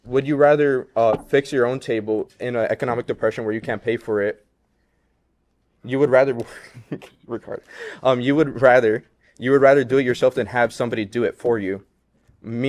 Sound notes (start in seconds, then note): 6.4 laughs